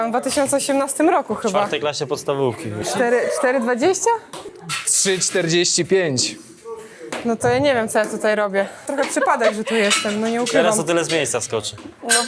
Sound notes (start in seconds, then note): 8.8 laughs